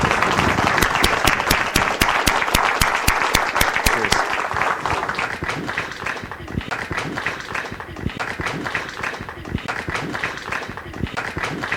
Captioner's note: applause